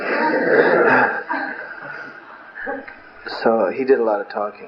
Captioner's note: laughter